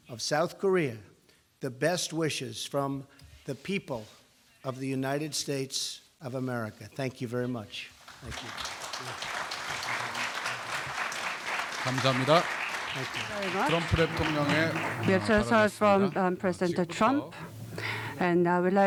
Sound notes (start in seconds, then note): 8.0 applause